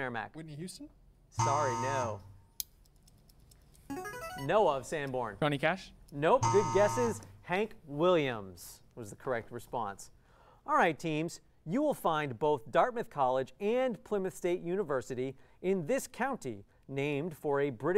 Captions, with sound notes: Whitney Houston? [error buzzer] Sorry, no. [player buzzer] Noah of Sanborn. Johnny Cash? [error buzzer] Nope, good guesses. Hank Williams was the correct response. All right teams, you will find both Dartmouth College and Plymouth State University In this county named for a British